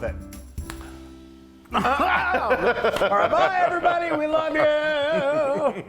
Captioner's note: laugh